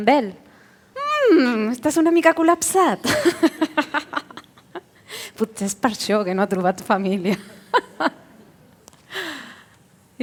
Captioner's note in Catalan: Riures